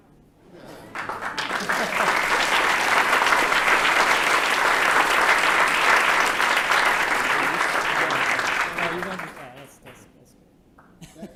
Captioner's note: applause